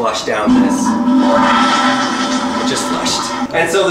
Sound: toilet flushing

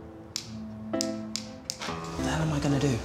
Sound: switch clicks continuously

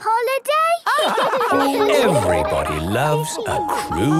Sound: all laugh

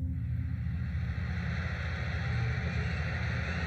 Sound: cheering

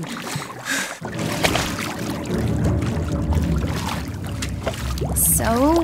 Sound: loud rumbling, water sloshing

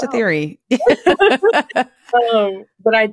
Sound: laughter

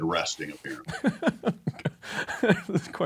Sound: laughs

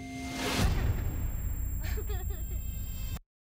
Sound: chuckles; laughing

